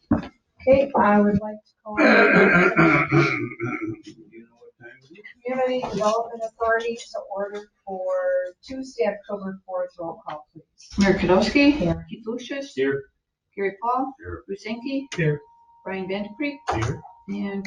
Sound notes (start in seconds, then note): 2.0 man coughing loudly